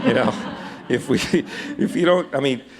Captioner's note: laughter